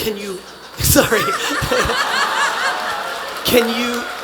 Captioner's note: attendees laughing